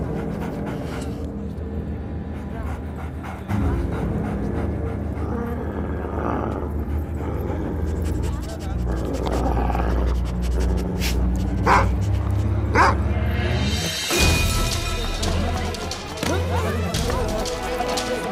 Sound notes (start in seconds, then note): 5.6 Dog grunts; 12.7 Dog barks